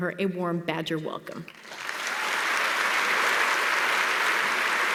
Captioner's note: applause